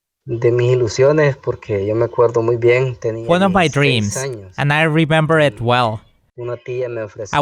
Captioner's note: foreign Language